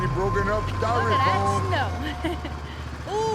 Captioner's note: chuckling